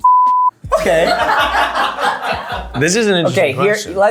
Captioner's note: people laughing